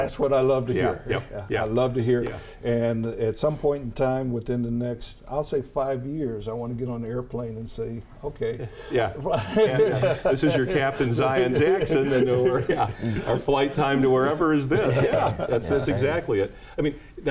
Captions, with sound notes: - That's what I love to hear. I love to hear it. And at some point in time within the next, I'll say five years, I wanna get on the airplane and say okay. (giggles) - Yeah this is your captain Zion Jackson our flight time to wherever is this. (laughs) - Yeah that's exactly it.